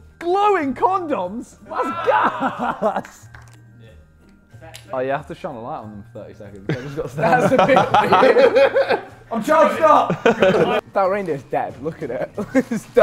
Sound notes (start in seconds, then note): 8.2 Sidemen laughing; 12.4 laughs